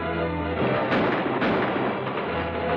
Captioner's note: firing